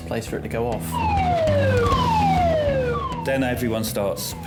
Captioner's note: siren blaring